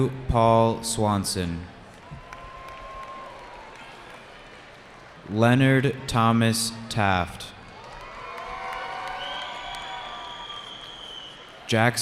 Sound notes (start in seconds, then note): 1.8 cheering